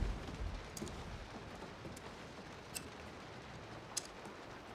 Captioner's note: scissors clipping